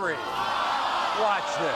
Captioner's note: audience groans